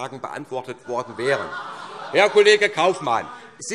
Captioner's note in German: Lachen BÜNDNIS 90/DIE GRÜNEN